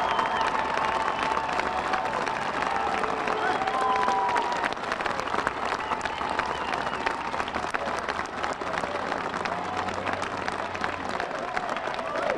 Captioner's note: applause